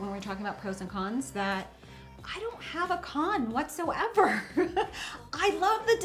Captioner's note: laughs